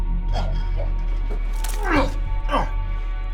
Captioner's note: vomits